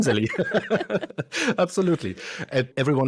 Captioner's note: both laugh